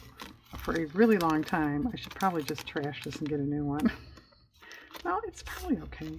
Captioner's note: laughs